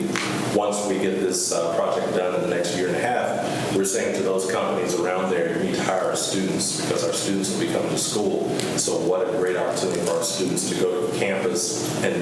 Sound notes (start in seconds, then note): none